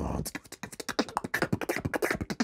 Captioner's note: beatboxing